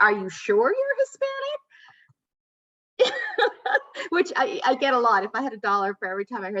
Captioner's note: laughter